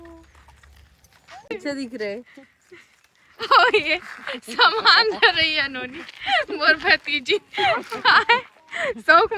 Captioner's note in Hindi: हंसी